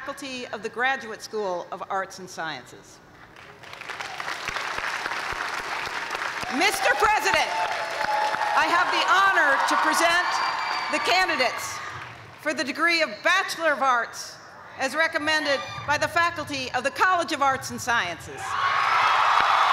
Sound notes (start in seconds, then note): 3.6 cheers and applause